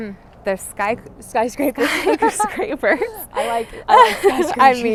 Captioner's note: laughing